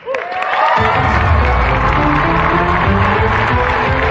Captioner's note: cheering and applause; dramatic music